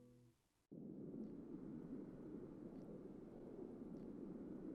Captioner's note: winter ambience